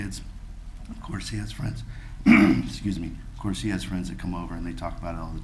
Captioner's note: clears throat